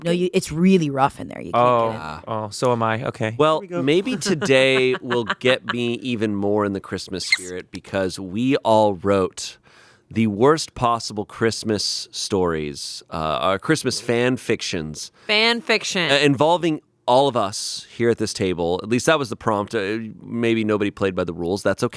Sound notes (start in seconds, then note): 3.7 laughs